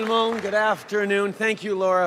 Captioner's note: applause